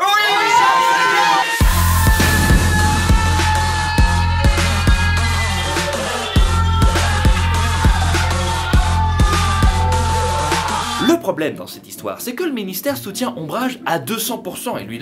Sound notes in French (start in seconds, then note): 0.0 cris de victoire en fond; 0.1 cris de joie